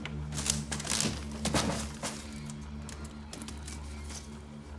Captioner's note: drawer rasping; basket clattering